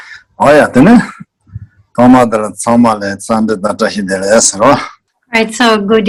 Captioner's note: speaking in foreign language